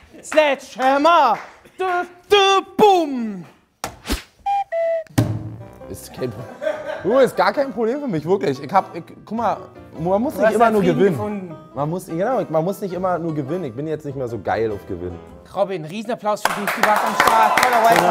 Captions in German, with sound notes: (Er singt.) Bum! (Kuckucksruf) Du, ist gar kein Problem für mich, wirklich. Guck mal, man muss nicht immer nur gewinnen. Du hast deinen Frieden gefunden. Ich bin nicht mehr so geil aufs Gewinnen. Robin, Riesenapplaus für dich, toller Wildcarder!